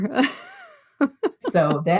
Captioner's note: laughter